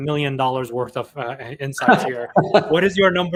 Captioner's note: laughs